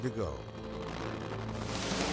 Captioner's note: exploding music; vehicle idling